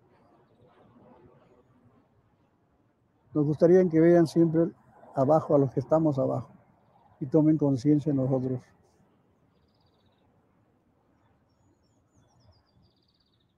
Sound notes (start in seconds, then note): 3.3 speaking in foreign language